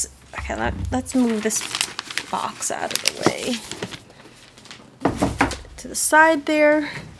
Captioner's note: clatter as box is set on table